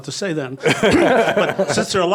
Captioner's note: laughs